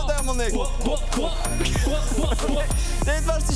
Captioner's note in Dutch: pop-pop-pop,pop-pop-pop